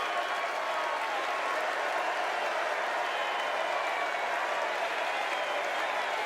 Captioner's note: applause